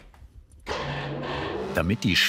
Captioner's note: machine roar